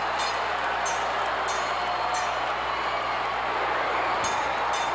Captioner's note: bell clanging continues